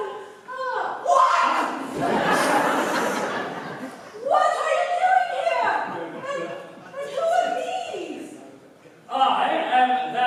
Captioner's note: PSYCHE, suddenly screams